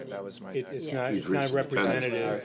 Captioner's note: chatter